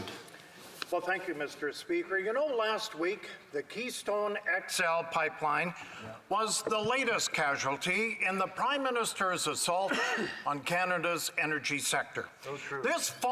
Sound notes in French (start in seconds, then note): 6.6 voix de l'interprète